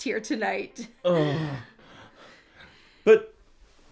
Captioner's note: Butch groans